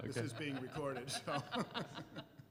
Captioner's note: laughter